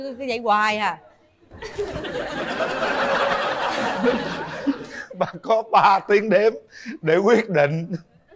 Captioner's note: laughter